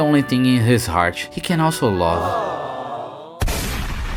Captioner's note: awwwww